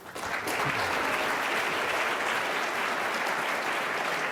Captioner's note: audience applauding